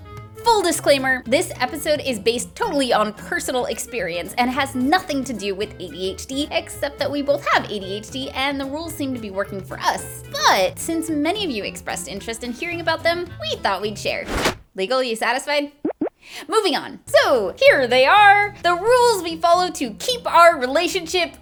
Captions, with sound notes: FULL disclaimer, this episode is based totally on personal experience and has nothing to do with ADHD -- Except that we both HAVE ADHD and the rules seem to be working for us. BUT! Since many of you expressed interest in hearing about them, we thought we'd share. [whoosh] [adorable bopping sounds] Moving on! Soooo, here they are, the rules we follow to keep our relationship --